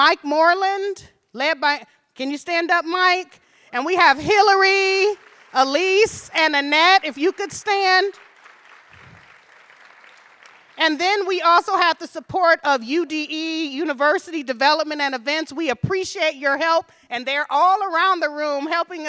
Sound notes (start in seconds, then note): 8.5 audience appluading